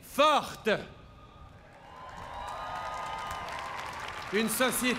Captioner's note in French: Applaudissements